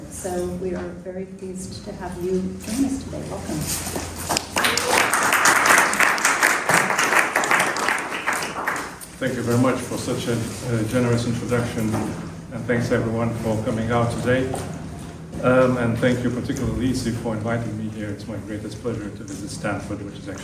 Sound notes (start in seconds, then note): 4.3 applause